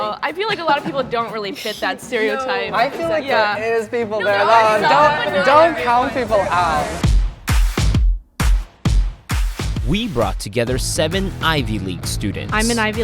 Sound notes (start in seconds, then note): 4.4 students agreeing and disagreeing; 6.9 exciting music